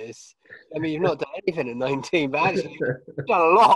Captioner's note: laughs